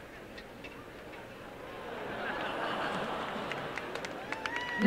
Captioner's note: applause and laughter